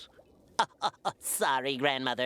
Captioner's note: SPONGEBOB chuckles